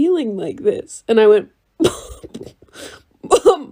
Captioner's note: laughs